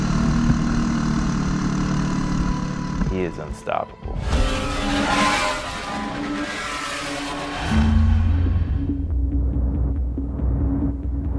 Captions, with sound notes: He is unstoppable. (engine racing noises) (intense music)